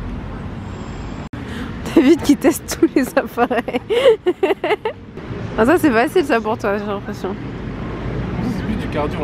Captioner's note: laughs